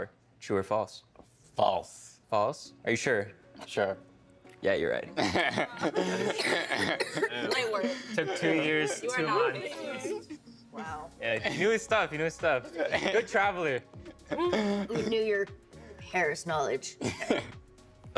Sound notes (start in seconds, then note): 5.2 laughing; 7.8 coughing; 16.8 chuckling